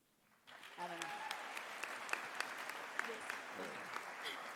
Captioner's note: audience applauding